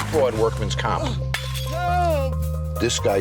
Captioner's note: man crying